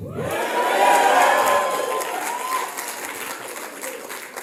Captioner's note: audience cheering